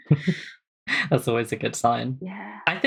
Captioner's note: laughs